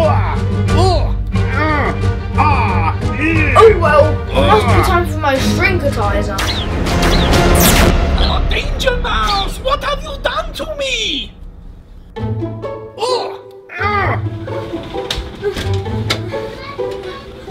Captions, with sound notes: **Groans** Oh well! Must be time for my Shrinkitiser! Ah Danger Mouse! What have you done to me?? **Groans**